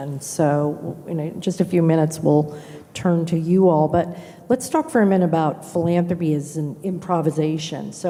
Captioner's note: none